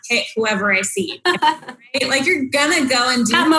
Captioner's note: laughs